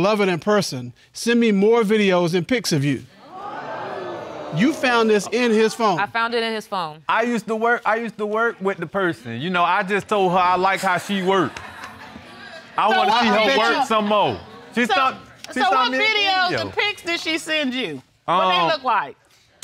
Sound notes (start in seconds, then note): 3.2 audience gasps